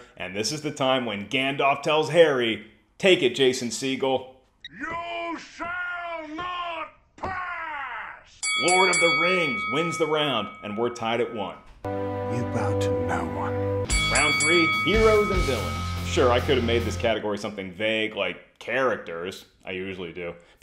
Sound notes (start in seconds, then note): 8.4 bell ringing; 13.8 bell ringing